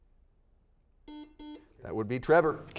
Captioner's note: series of beeps